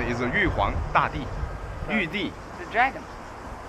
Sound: speaks in Chinese

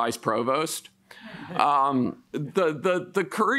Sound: men chuckle

